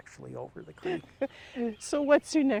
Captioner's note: laughs